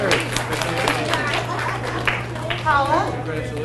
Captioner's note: audience applauds